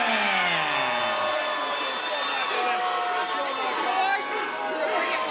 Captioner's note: crowd jeering